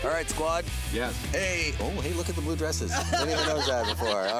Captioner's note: laughing